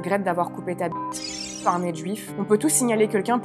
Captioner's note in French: bip